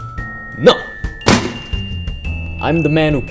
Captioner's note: gunshot